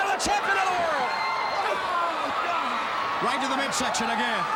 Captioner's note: crowd cheering